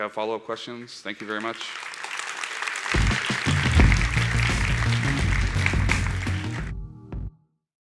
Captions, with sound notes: if you have follow-up questions. Thank you very much. (applause) (energizing music)